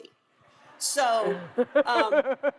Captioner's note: laughs